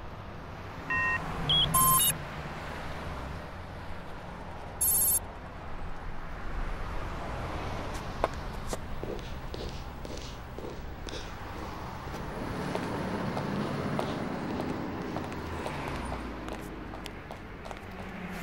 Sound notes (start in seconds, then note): 1.4 phone beeps; 8.6 boots click